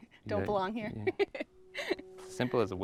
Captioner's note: chuckles